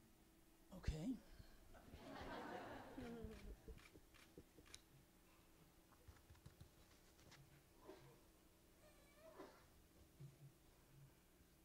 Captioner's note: laughter